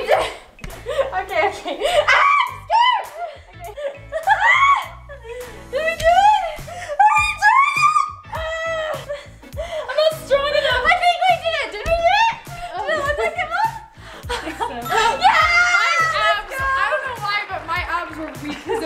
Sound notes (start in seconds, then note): 4.4 screams; 8.3 yells